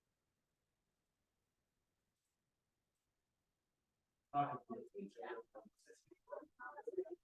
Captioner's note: silence